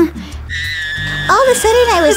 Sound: screaming

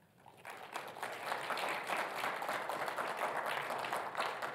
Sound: audience clapping

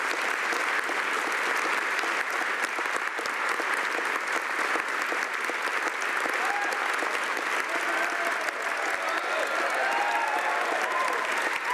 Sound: applause

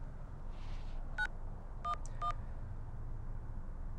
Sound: dial tone

